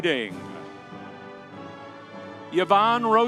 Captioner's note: audience cheering